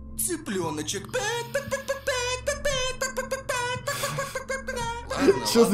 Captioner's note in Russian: непонятные звуки курицы